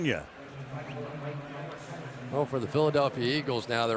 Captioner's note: pa announcement